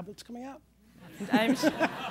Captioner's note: laughter